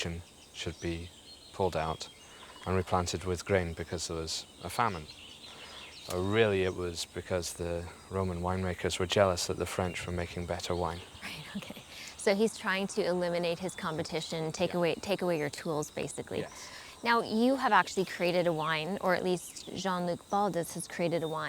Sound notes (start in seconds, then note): 11.2 laughing